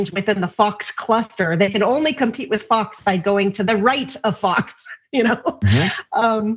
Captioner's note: laugh